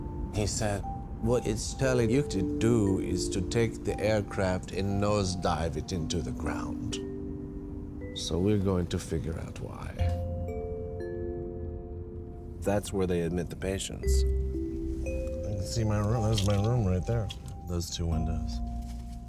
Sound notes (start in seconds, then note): none